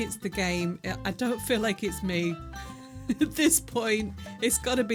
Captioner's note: laughing